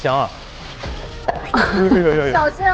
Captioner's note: sizzle